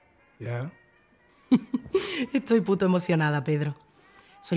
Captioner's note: laughs